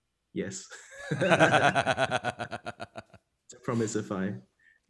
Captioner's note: laughing